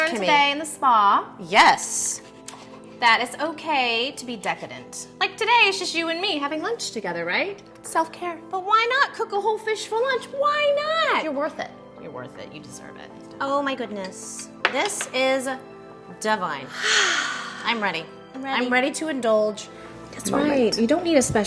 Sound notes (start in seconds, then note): 16.7 sighing